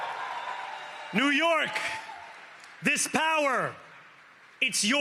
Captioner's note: cheering and applause